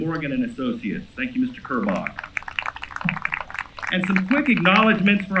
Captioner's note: applause